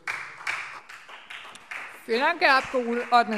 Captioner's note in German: Beifall SPD und Freie Demokraten